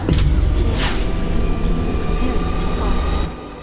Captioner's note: machine whirs